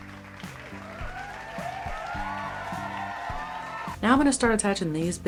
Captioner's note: applause